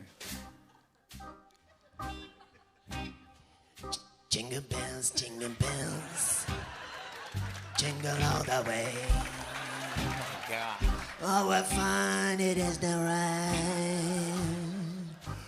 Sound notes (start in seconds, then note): 4.1 As Bob Dylan; 5.4 laughter